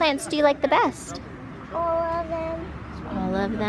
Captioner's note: onlookers murmuring